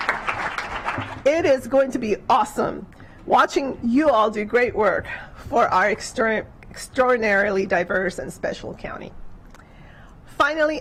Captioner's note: clapping